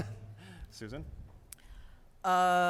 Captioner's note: laughs